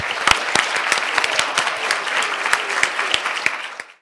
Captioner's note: audience applauding